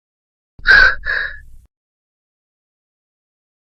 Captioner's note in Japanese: 息をのむ音